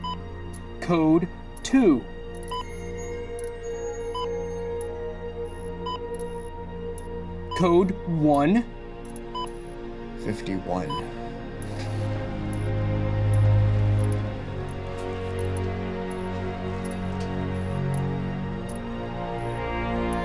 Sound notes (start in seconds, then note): 2.2 machines beep